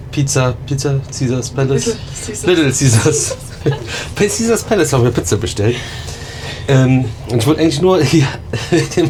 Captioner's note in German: gelächter